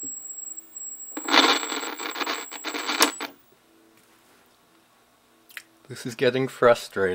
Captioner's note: scratchy volume control